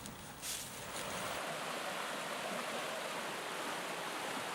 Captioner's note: water rushing